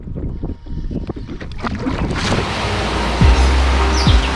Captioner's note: splash